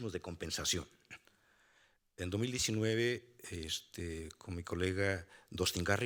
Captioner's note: speaking Spanish continues